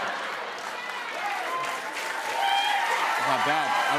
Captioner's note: cheers and applause